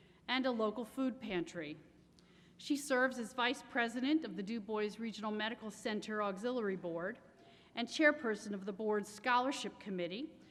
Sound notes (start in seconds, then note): none